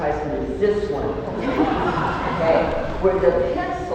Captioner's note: laughter